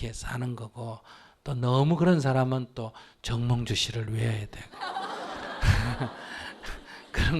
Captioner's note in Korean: 청중 웃음